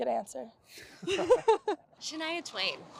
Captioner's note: laughter